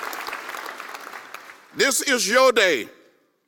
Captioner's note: applause